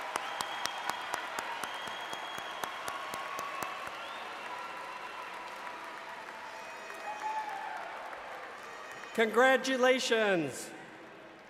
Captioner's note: cheers and Applause